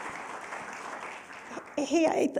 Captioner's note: applause